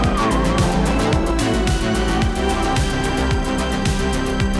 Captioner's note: engine revving; upbeat music